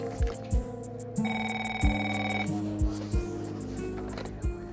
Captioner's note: phone rings